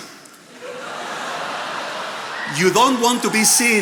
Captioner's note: attendees laughing